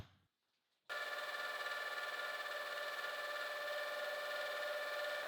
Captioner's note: machine whirring